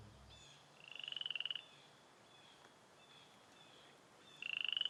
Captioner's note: frogs croaking